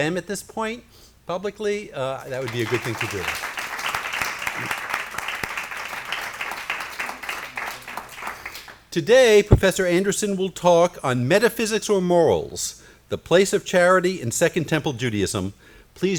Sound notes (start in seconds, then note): 2.2 applause